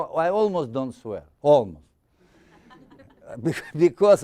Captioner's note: audience laughing